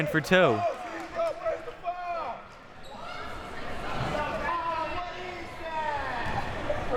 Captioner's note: audience chattering and yelling